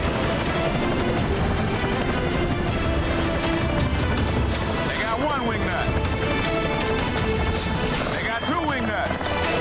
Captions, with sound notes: (urgent music) (helicopter rotors thumping) They got one wing nut! (metal clanging) They got two wing nuts!